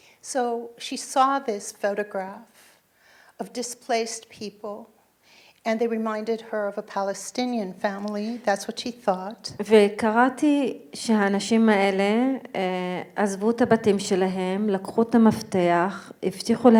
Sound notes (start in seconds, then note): 9.7 speaking in foreign language